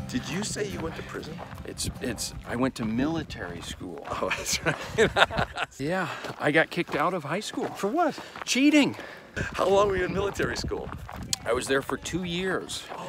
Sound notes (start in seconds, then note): 4.1 laughing